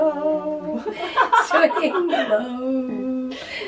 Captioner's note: laughter; singing